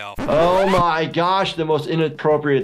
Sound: record scratching

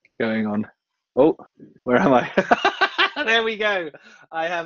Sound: laughs

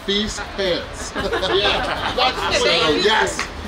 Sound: laughing

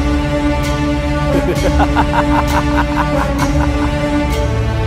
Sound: laughs

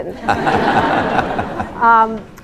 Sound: laughter

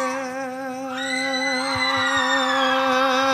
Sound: enthusiastic Cheer

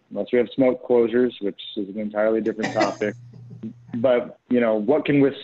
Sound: laughter

